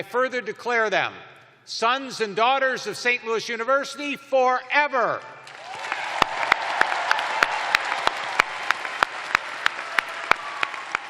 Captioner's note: cheers and applause